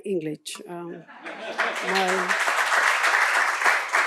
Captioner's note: applause